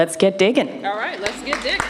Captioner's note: applause